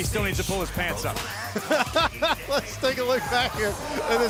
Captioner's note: laughter